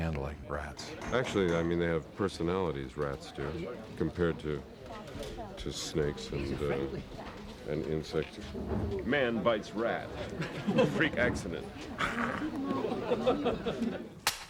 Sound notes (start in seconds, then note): 11.9 growls; 12.1 laughter